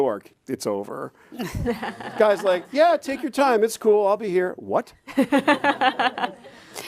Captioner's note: chuckles